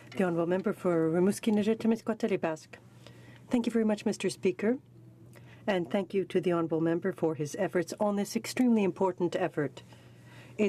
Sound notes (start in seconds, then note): 0.6 speaking in french